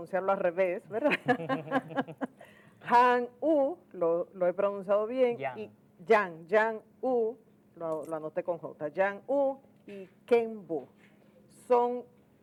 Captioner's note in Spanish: risas